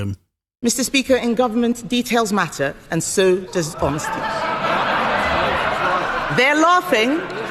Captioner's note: laughter